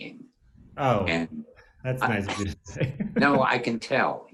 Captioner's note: laughs